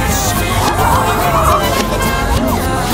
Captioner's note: honk Honk!!!